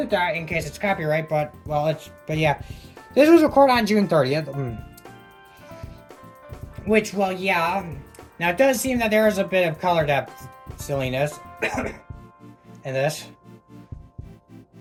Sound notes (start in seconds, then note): 11.6 coughing